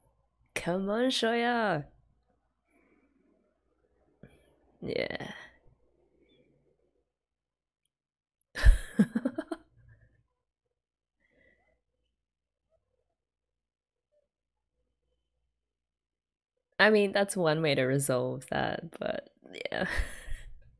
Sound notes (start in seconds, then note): 8.6 laughs